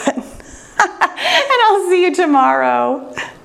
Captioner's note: laughing